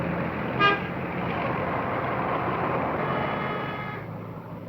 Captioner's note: horn blaring